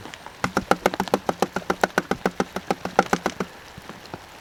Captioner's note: tap tap tap tap